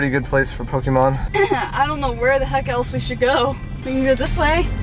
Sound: laughs

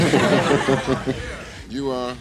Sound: all laughing

